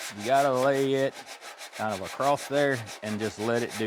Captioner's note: scraping